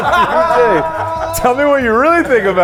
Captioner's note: everyone laughing